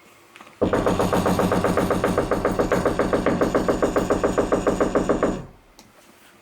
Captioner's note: knock x99999999